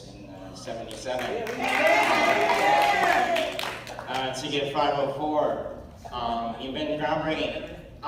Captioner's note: applause cheers